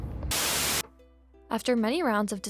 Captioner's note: static buzzes